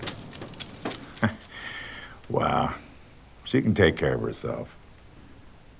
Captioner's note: chuckles